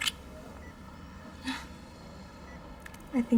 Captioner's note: chuckles